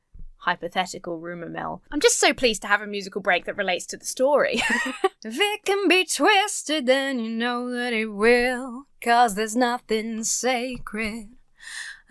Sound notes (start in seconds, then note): 4.5 laughs